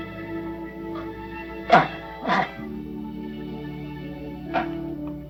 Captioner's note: Philip groaning